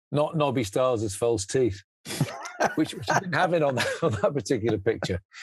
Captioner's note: laughs